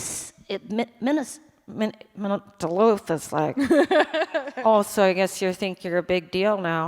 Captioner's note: monotone Minnesota accent